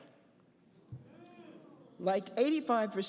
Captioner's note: audience members boo